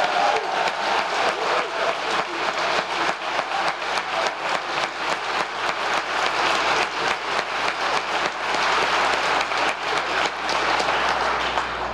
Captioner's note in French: applause